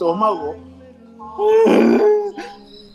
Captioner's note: proceed to moan